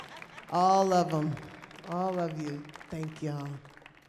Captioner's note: audience applauding